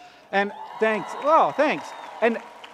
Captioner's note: cheering and applause